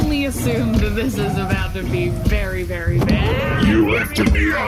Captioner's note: choking